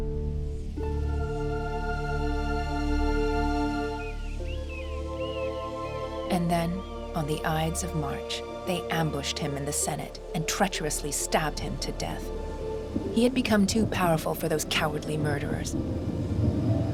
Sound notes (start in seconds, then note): 0.1 relaxed music; 0.1 wind whooshing; 4.4 birds cawing; 16.7 thunder rumbling